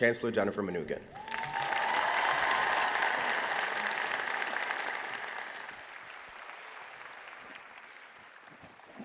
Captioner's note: applause